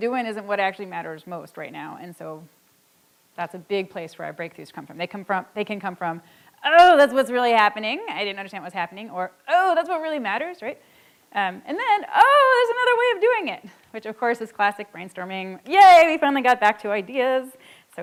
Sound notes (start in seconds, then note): none